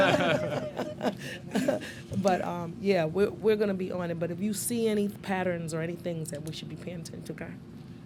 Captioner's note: laughter